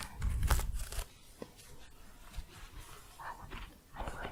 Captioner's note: shuffling